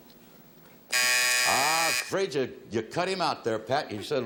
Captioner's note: timer buzzes